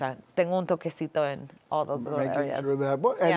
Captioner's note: speaking Spanish